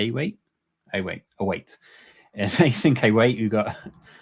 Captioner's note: chuckles